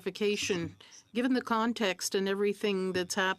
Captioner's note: speaking French